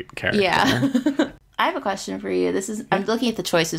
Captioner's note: laughs